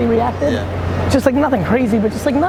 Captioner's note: male Voice